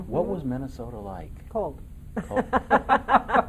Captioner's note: laughing; laughing in unison